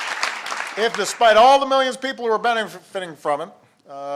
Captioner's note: applause